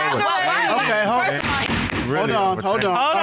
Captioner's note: gavel thuds